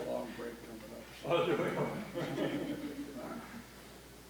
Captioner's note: laughs